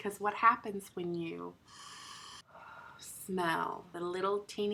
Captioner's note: inhaling